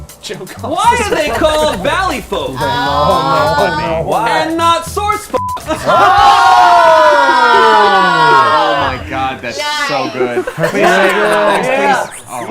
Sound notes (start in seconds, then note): 5.4 beep